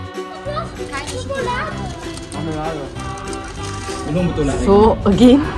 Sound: speaking German

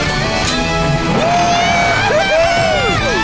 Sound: screaming

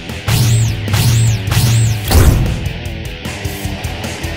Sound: energetic rock music; electric shock

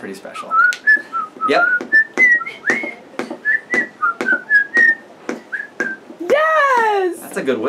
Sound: whistling

